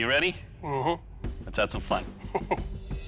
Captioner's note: laughs